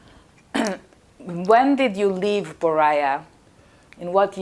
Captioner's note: clears throat